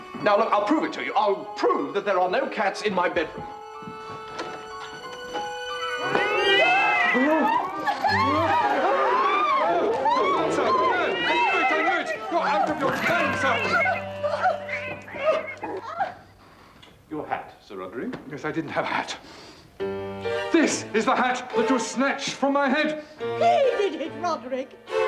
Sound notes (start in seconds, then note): 5.6 screams of horror; 5.7 stampede of mewing cats